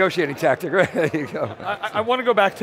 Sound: laughs

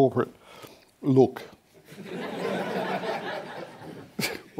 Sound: laughter

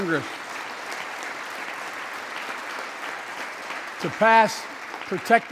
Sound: applause

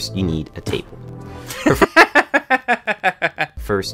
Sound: laughs

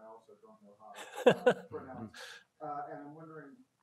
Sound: laughs

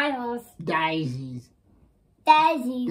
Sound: funny voice

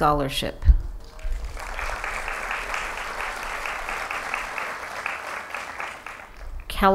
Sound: applause

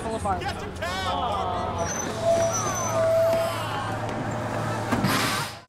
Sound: bus brakes

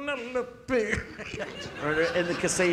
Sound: audience laughing

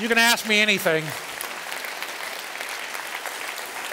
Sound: applause

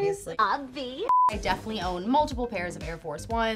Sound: beeping

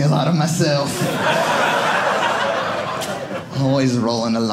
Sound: audience laughing

